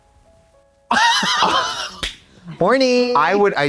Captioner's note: Katya har-hars